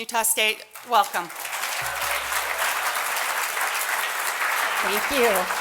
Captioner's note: applause